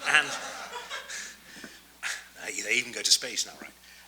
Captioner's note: audience laughs